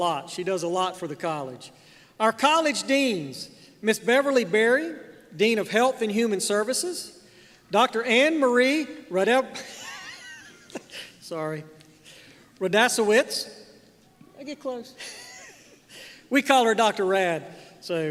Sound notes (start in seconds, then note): 9.6 chuckles